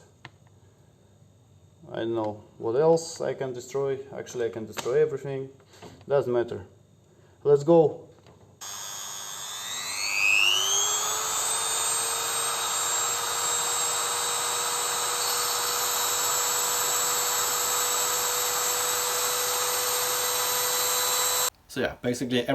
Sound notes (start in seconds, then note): 11.1 drilling